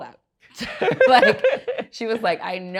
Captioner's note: laughs